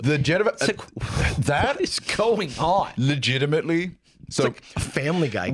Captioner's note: laughing